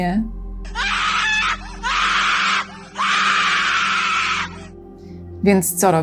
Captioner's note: shouting into the void